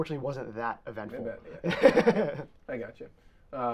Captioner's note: both laughing